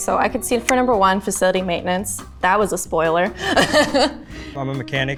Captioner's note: laughs